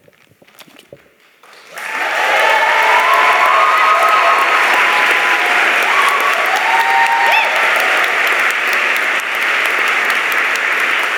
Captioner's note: cheers and applause